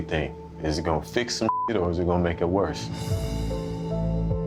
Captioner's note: beep